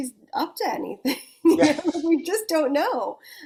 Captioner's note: chuckles